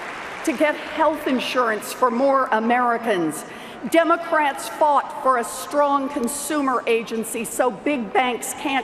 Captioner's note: cheers and Applause